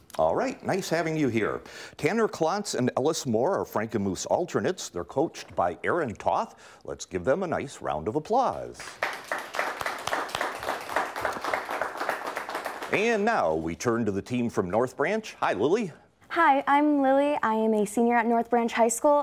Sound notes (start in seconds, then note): 8.8 clapping